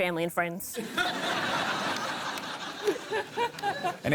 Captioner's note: laughter